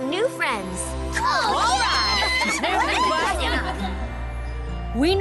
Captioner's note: excited chatter